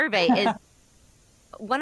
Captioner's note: laughs